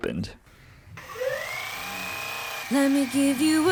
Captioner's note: massager vibrating